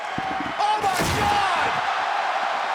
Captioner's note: body thudding